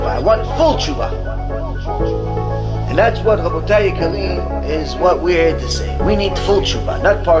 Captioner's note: hebrew